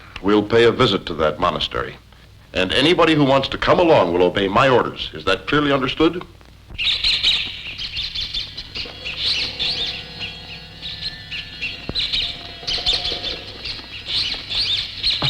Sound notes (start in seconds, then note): 6.7 bats squeaking; 10.0 ominous music